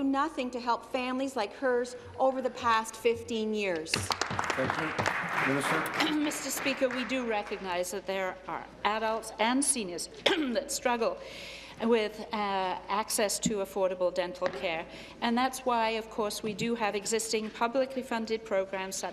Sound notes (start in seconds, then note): 7.1 applause